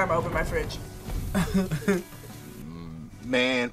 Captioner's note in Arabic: كلاهما يضحك